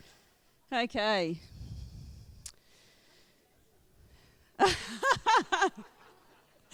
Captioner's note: chuckles